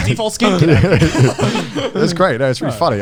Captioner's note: all laughing